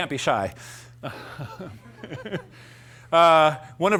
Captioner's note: laughter; laughs